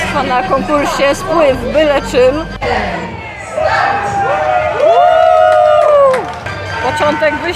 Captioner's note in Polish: Aplauz